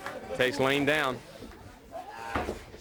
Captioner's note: crowd cheering; crowd chatter